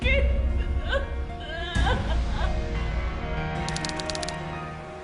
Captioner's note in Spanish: Sollozos